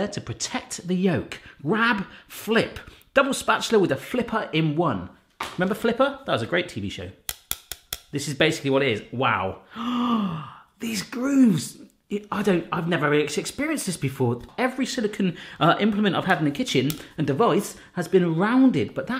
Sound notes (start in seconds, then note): 7.3 soft clacking; 9.6 gasps